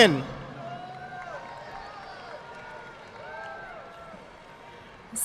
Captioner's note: audience applauding